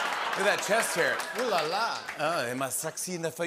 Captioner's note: French accent